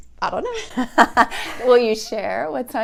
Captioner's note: laughs